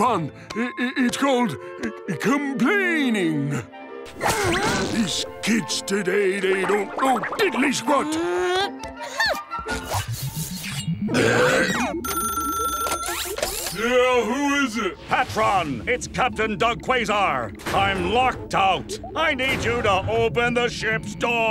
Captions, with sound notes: It- It's called complaining. These kids today, they don't know diddly squat. [belching] [ringing] Yeah, who is it? PaTron, it's Captain Doug Quasar. I'm locked out. I need you to open the ship's door.